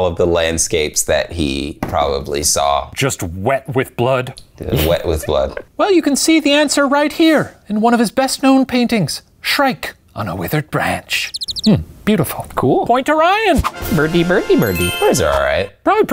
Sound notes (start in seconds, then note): 11.2 bird chirping; 13.9 bell chiming